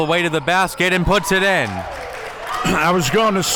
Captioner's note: audience cheering